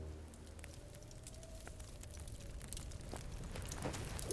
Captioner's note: fire crackling